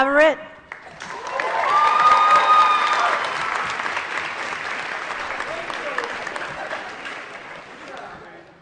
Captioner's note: applause